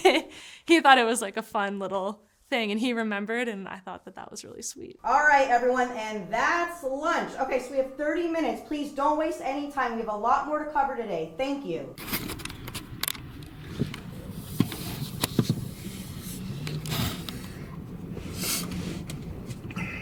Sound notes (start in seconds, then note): 11.7 shuffling sounds